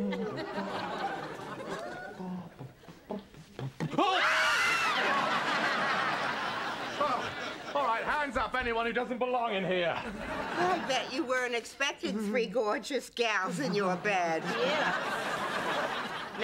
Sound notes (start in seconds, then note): 4.0 screaming; 13.5 laughter